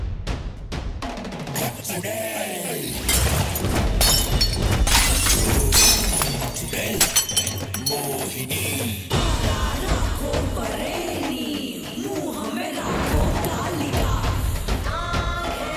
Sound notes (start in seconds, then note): 9.0 chant